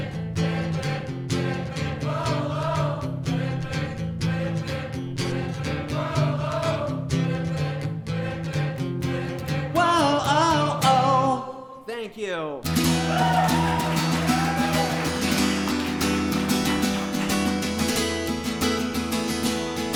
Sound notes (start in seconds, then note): 12.6 guitar strumming; 12.7 audience cheering